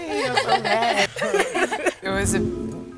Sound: laughter

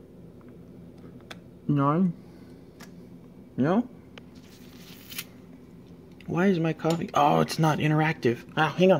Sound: penny drops

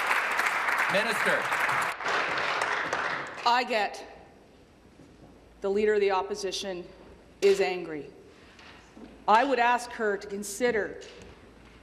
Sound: applause

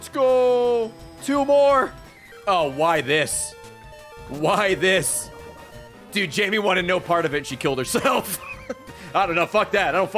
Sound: laughs

